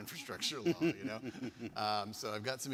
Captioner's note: laughing